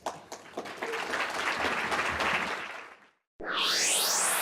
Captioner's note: applause